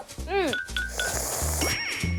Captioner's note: slurp~~